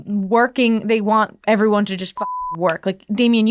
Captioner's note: beeping